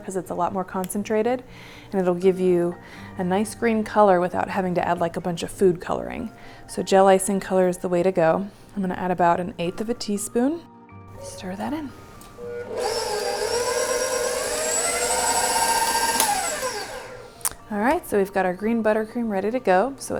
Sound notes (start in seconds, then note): 12.2 whirring